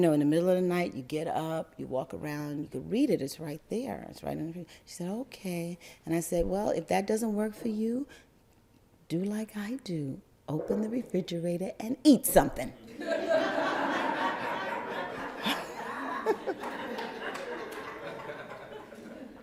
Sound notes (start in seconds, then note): 12.9 crowd laugther